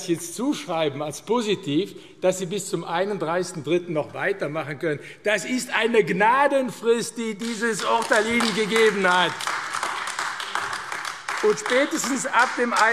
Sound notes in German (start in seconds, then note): 9.6 Beifall AfD